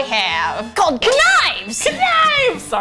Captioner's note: excitedly